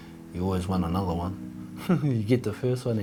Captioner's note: chuckles softly